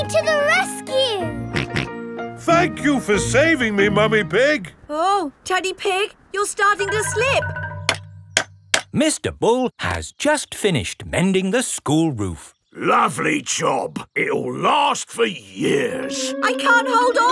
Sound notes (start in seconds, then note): 2.3 snorting; 8.5 clanking